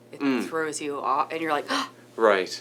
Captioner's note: gasping